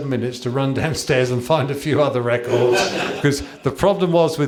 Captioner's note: laughter